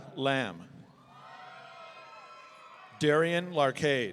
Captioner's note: audience cheering